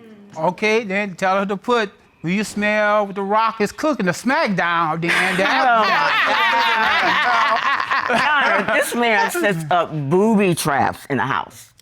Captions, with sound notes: Okay, then tell her to put "Do you smell what The Rock is cooking?" The smackdown ringtone. [Judge Dana laughing] This man sets up booby traps in the house.